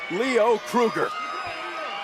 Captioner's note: crowd chatter